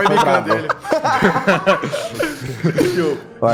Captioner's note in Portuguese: Risos